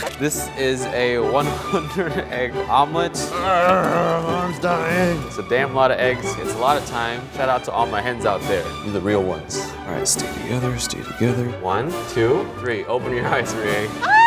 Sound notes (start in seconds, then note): 3.3 grunting; 14.1 giggling